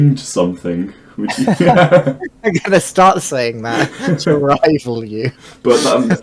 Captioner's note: laughing